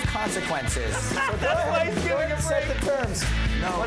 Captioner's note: player laughing